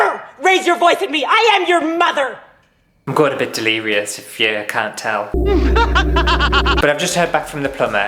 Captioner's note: laughter